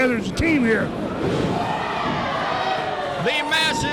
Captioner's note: crowd cheering